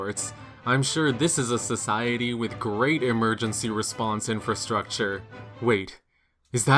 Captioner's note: sarcastic